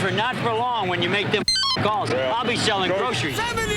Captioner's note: beep